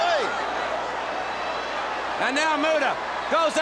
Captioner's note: crowd chatter